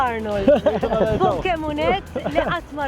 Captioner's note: laughs